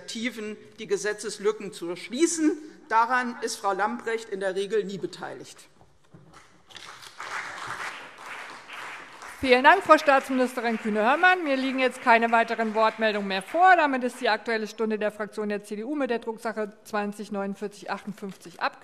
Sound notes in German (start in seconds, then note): 6.7 Beifall CDU und BÜNDNIS 90/DIE GRÜNEN